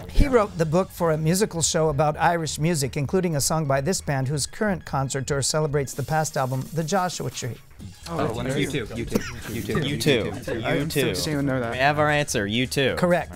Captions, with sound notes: He wrote the book for a musical show about Irish music, including a song by this band whose current concert tour celebrates the past album, The Joshua Tree. [wispering] We have our answer, U2. Correct.